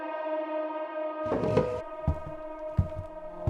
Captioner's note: chair movement